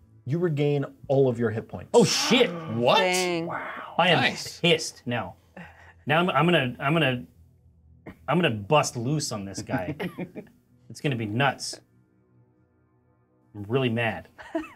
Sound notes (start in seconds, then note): 9.5 co-hosts laughing; 14.5 co-hosts laughing